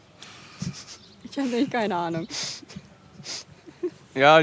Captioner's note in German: lacht